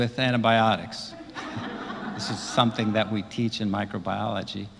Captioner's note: laugh